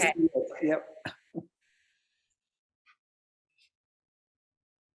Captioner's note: chuckles